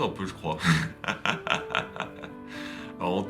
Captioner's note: laughs